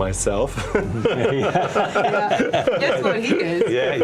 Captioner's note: all laugh